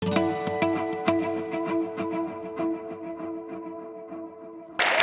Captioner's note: applause